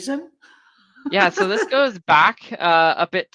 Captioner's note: laughing